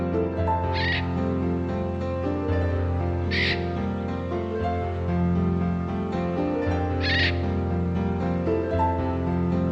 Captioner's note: bird sounds